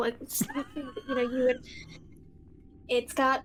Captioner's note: laughing